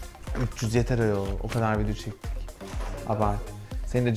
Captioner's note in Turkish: düşük sesle